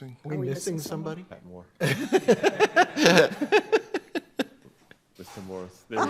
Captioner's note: everyone laughing